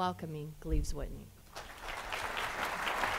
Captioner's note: applause